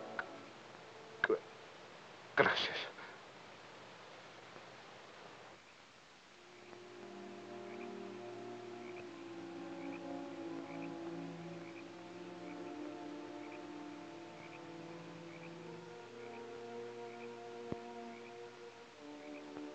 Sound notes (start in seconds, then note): 5.4 somber music; 7.5 frogs croaking